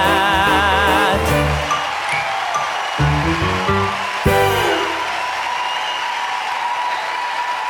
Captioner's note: cheering; gentle music